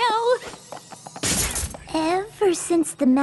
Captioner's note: pop